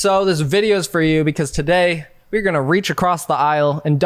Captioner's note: none